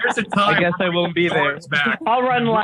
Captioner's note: laughter